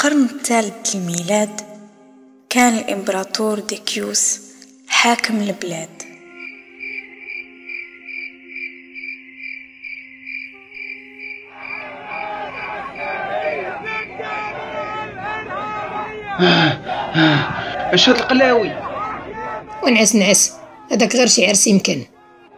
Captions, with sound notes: In the third century AD Emperor Decius was the ruler of the country [People shouting outside the palace] What the f*** is this? Just get back to the bed maybe a wedding party.